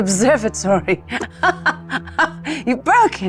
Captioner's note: laughs